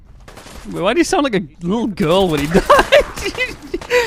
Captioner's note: laughs